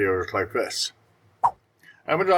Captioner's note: swipe Sound